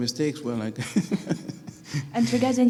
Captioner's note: chuckles